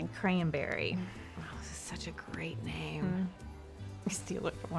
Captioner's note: says sarcastically